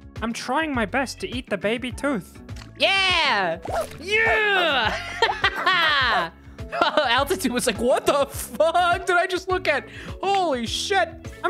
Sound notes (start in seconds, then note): 0.2 little guy voice; 7.6 little guy voice